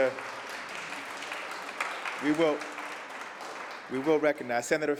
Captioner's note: applause